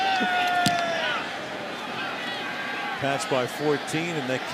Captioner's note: chuckles